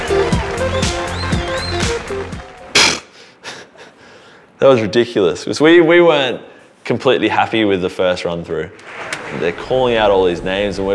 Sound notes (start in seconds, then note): 0.0 cheers and applause; 2.9 scoffs